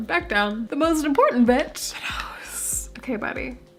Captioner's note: whispered